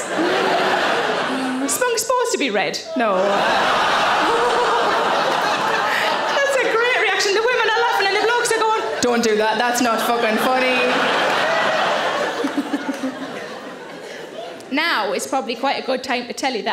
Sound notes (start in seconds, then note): 0.0 audience laughing; 3.5 audience laughing; 10.9 audience laughing; 12.4 Sarah laughing